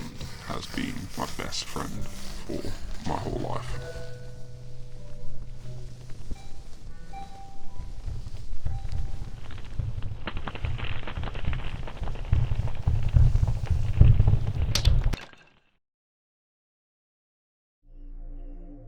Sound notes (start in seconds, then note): 4.9 crackling sound effect